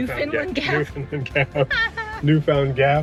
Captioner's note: laughing